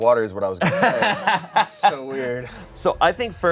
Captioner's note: all laugh